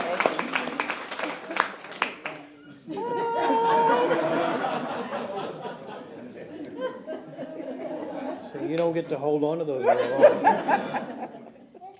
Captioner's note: applause